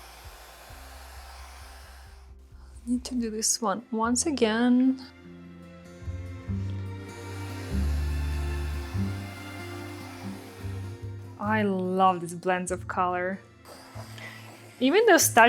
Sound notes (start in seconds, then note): 0.0 hair dryer whirring; 6.5 hair dryer whirring; 7.5 gentle music